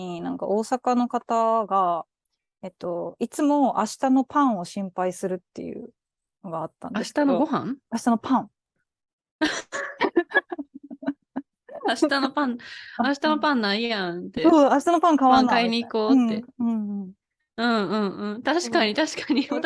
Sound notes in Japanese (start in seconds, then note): 9.4 失笑